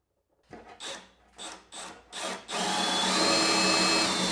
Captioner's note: drill whirring